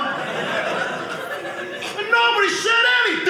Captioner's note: audience laughing